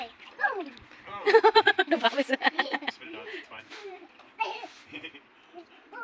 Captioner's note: laughs